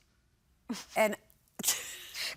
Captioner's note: chuckles